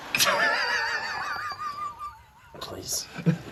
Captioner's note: laughing